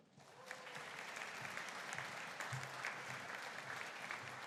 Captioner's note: audience applauding